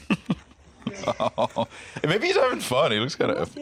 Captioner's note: laughing